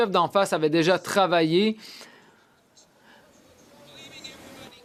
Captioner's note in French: voix de l'interprète